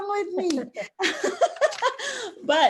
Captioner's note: both laugh